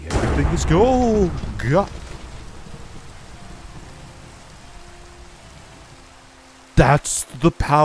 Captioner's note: thunder